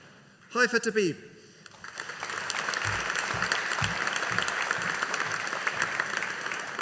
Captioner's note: audience applauding